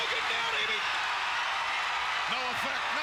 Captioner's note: crowd cheering